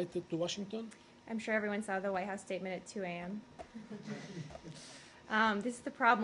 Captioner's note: laughter